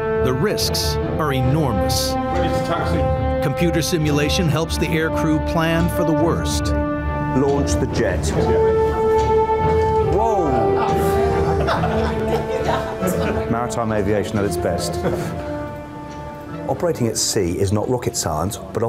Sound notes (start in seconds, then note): 8.8 dramatic music; 11.0 crew laughing